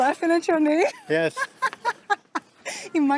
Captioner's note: laughs